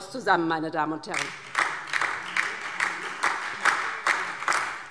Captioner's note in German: Beifall DIE LINKE und vereinzelt SPD